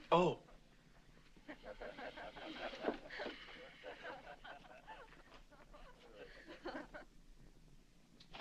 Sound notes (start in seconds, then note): 3.3 laughing continues